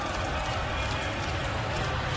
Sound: reporters chatter

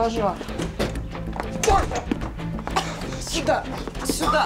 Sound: coughs

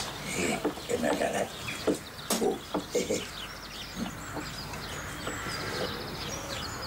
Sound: chuckles

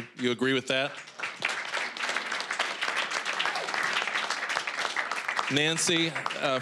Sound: applause

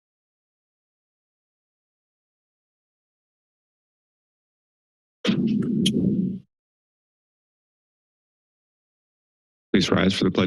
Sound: silence

